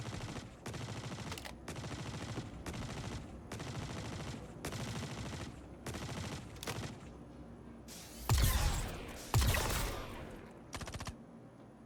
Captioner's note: gun firing